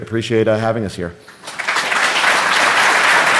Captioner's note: applause